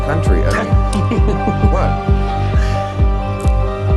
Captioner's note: laughs